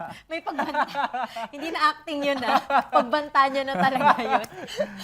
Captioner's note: laughs